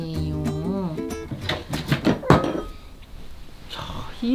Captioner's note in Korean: 우당탕 소리